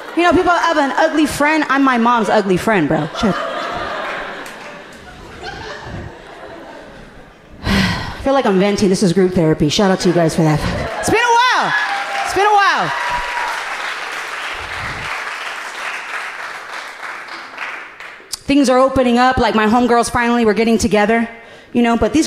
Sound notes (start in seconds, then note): 2.9 audience laughing gently; 7.6 sighing; 11.7 audience applauding supportively